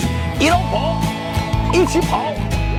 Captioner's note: in Shanghainese